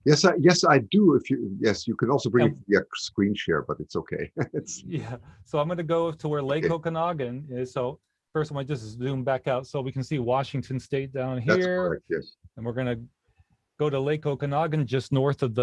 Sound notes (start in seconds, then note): 4.0 laughs